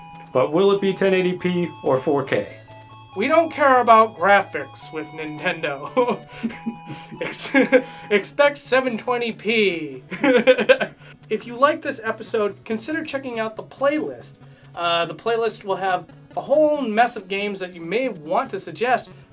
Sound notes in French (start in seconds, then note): 5.8 qui rigolent un peu; 10.2 qui rie encore une fois